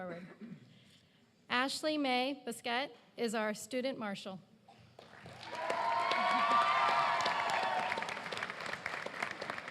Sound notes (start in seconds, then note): 3.2 applause